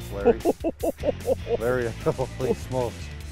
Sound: laughing

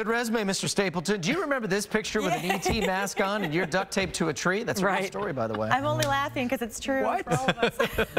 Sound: laughter

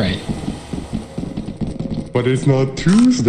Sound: quick footsteps on concrete

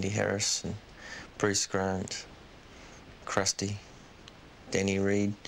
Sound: none

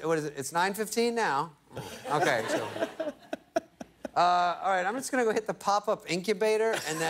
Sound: laughter

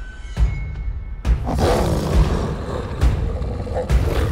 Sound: growls

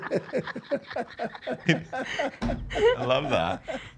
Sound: laughs

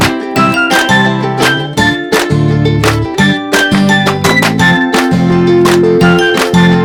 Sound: applause

